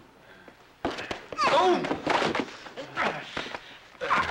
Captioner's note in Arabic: خرخرة